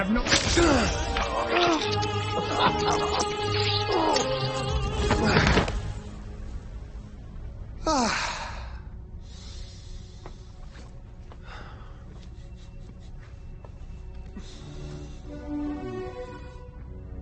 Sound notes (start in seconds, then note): 0.2 flesh slicing; 0.2 blood spattering; 0.8 classical music playing; 14.2 classical music